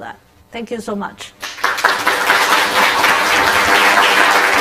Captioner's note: applause